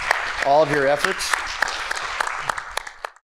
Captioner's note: congregation clapping